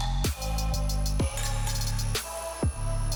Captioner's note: grinding metal